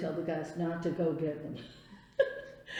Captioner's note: laughs